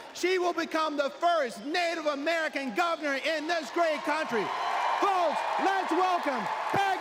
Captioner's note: cheers and applause